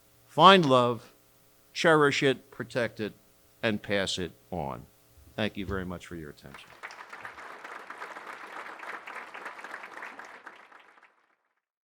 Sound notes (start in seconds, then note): 6.5 audience applauding